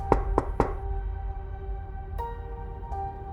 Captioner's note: knocking